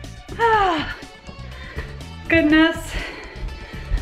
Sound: sighs

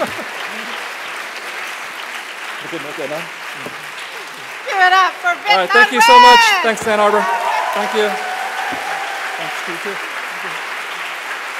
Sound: applause

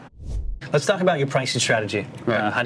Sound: air swooshing

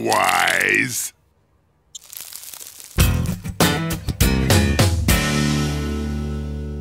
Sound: crumbling

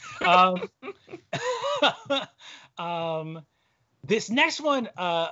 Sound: laughing

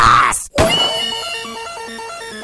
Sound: gunshot

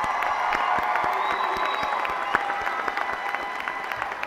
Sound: applause

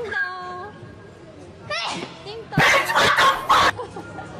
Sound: ah-choo!

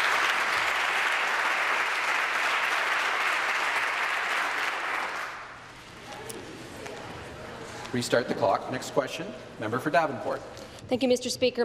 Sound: applause

